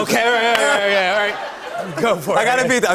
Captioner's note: laughter